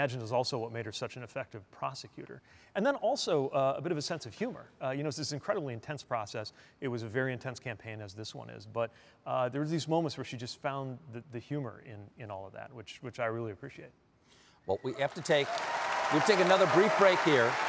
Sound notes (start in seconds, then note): 15.0 applause